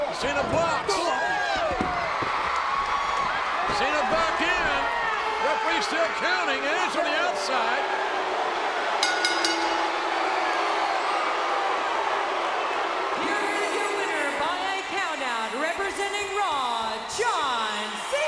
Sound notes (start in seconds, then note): 2.1 crowd cheering; 9.0 bell dinging; 10.4 crowd exclaiming